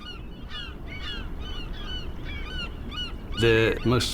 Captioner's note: birds squawking